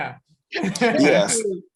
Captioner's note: chuckles